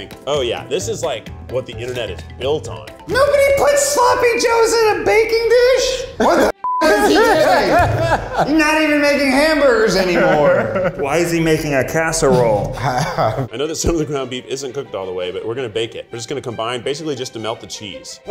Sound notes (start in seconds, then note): 6.6 beep; 6.8 laughing